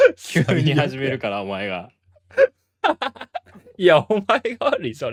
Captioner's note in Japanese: 笑い